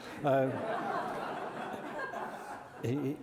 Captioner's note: laughter